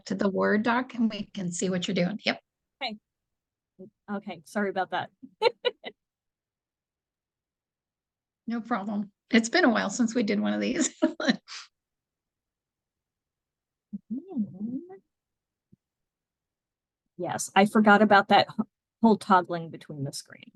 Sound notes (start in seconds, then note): 5.3 giggle; 10.8 giggle